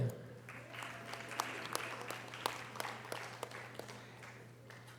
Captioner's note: audience applause